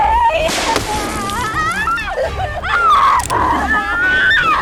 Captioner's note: Sarah screaming; werewolf growling; gun snaps